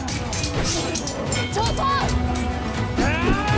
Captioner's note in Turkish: Çarpışma sesleri